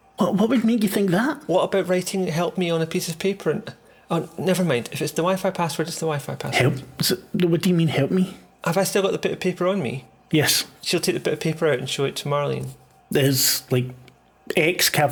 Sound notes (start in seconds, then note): none